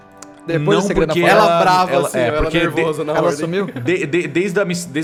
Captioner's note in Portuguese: risadas